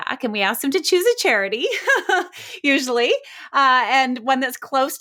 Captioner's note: laughs